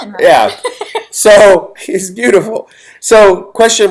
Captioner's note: laughs